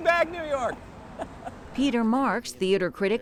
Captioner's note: laughs